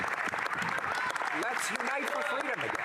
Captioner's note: some applause